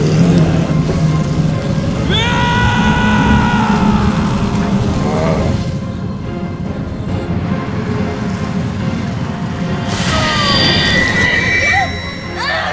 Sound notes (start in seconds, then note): 2.0 screaming; 9.7 magical shimmering